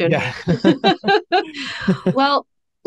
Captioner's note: both laugh